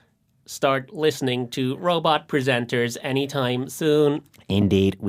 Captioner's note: robot voice